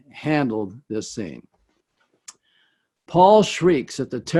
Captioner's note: none